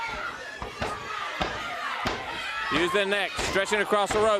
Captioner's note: crowd chatter